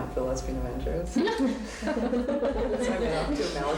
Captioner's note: giggles